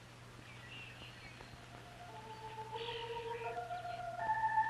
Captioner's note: birds chirping; stirring music